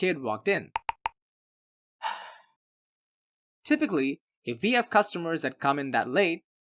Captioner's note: sigh